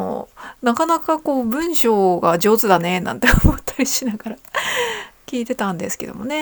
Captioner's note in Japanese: 息をのむ音